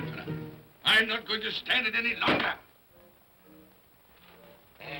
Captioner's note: thumps on desk